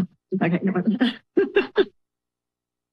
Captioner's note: laughs